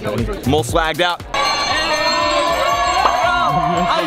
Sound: cheering

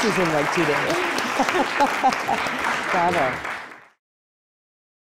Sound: audience applauding; laughing

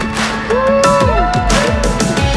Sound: cheers

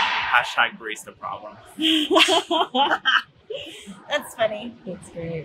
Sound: all laughing

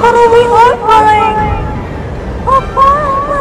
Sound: thunder

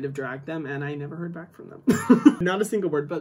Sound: laughs

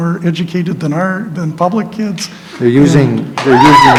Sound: applause

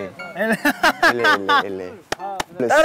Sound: haha

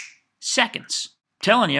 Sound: snaps fingers

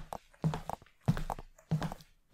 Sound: footsteps; whispering

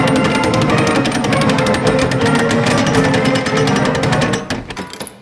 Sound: pressed penny falling

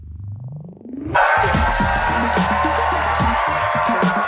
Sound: techno music; applause

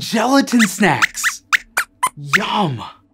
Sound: squeaks squeaks

